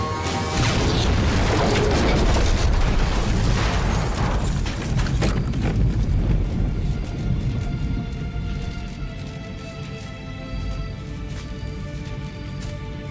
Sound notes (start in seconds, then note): 0.5 explosion